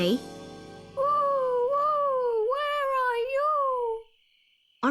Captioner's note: Oswald hoots